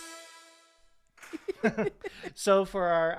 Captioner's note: both giggling